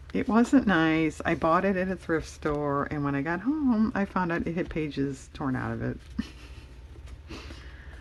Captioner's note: laughs